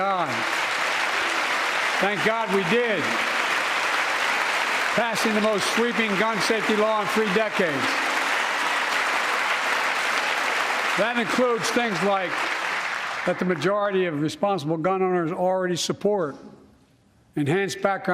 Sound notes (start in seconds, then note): 5.9 applause